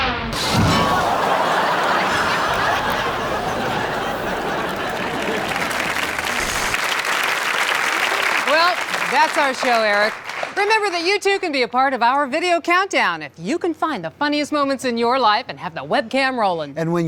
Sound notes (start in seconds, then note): 0.3 crashing and audience laughing; 5.1 applause